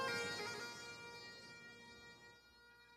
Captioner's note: none